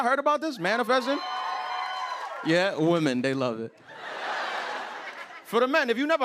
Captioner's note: crowd cheering